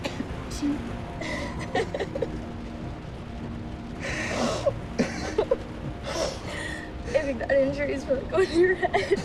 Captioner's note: laughs